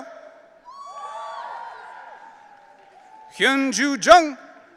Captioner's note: audience cheering